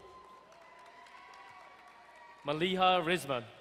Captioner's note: crowd cheering and applauding